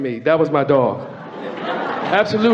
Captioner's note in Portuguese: Platéia ri